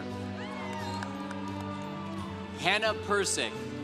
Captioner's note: congregation cheering